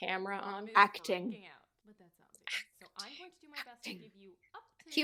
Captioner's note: whispering